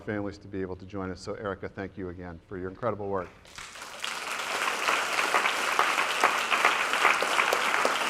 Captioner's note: applause